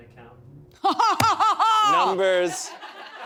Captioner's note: laughs